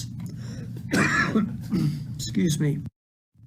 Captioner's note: coughs